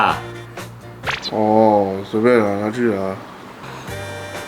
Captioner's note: annoyed